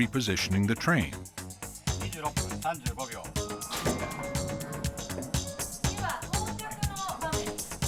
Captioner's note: speaking Japanese